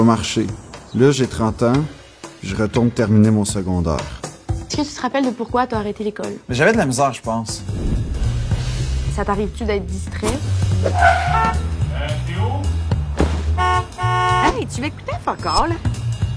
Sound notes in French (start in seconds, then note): 10.9 klaxon; 13.5 klaxons